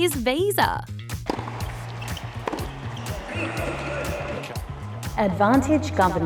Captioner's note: tennis ball bounces